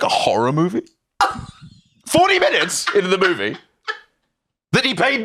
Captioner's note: laughs